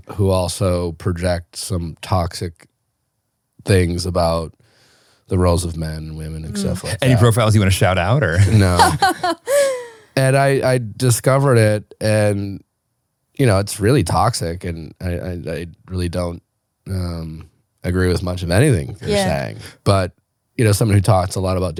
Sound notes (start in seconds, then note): 8.4 laughing